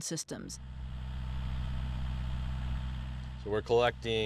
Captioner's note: engine humming